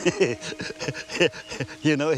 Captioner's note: laughing